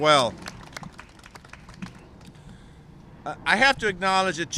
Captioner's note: applause